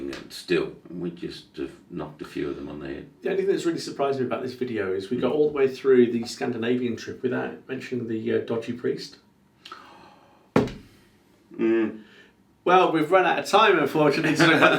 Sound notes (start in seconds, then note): 10.5 hand thudding; 11.5 sighing; 14.1 laughing